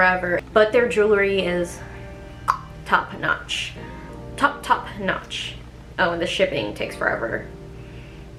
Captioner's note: tongue pop